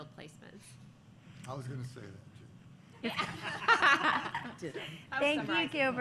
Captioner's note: laughter